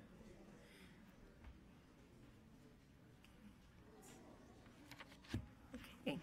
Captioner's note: people chattering faintly